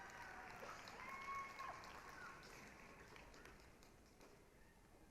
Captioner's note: applause, cheering